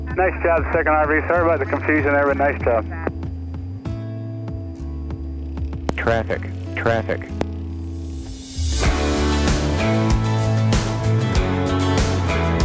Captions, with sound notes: Nice job, second RV, sorry about the confusion everyone. Nice job. - [Electronic Voice] Traffic, traffic. (upbeat music)